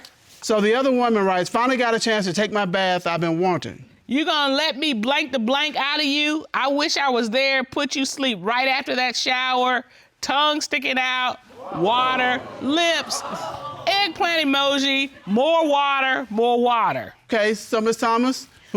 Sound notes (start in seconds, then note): 11.5 audience exclaiming